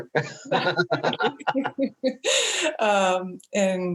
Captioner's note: both laugh